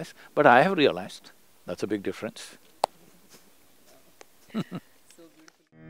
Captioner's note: laughs